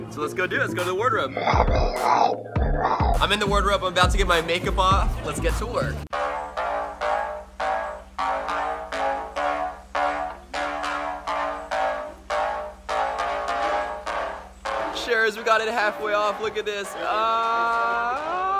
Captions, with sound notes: So lets go do it, lets go to the wardrobe. (growls) I'm in the wardrobe, I'm about to get my makeup off. Lets get to work. (exciting music) Sharers we've got it halfway off. Look at this, ahh.